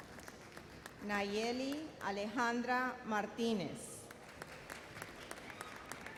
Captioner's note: audience applauds